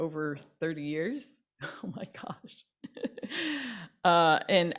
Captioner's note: laughs